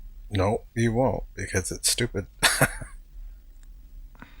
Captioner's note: chuckling